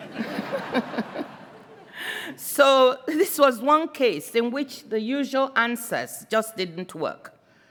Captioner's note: laughter